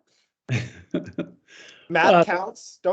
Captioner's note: chuckles